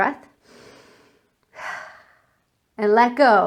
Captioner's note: breathing deeply